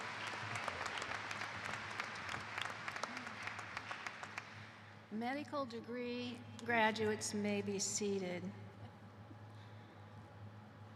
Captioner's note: cheers and applause